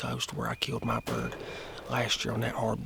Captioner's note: gunshot